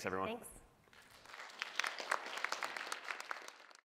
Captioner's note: applause